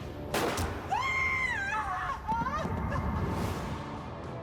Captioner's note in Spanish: grito